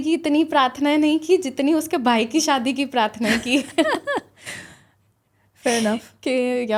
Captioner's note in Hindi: हंसी